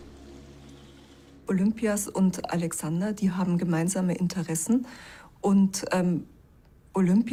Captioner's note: in German